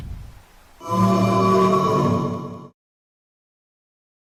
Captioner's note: wooooohhh